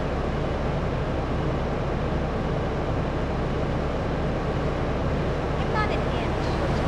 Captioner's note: engine revving